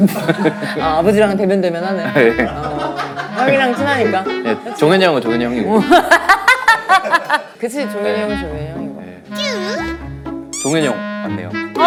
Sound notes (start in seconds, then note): 5.8 haha